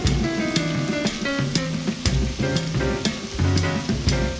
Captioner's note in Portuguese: gotejos fortes de água continuam; trovoada